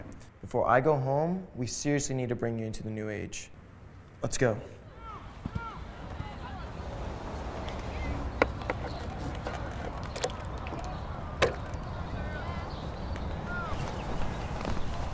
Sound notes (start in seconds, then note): 5.1 crowd chats